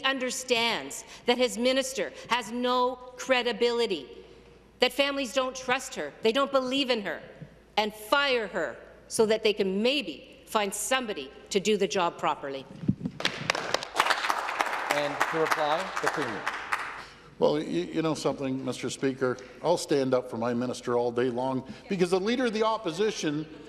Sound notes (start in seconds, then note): 16.1 some Applause